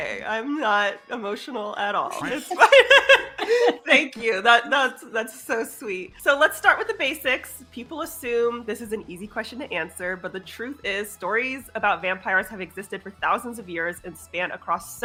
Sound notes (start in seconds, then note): 2.1 both laughs